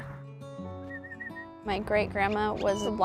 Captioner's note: whistles